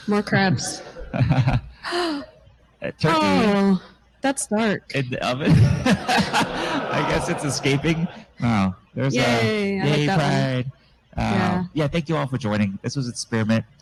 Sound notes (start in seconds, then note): 3.4 chuckles; 5.4 gasps; 9.8 laughs